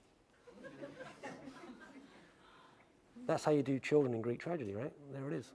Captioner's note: laugh